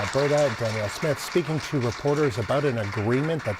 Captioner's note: applause